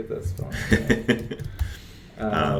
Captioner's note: laughs